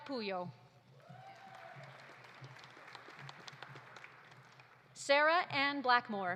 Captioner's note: audience cheering; audience applauding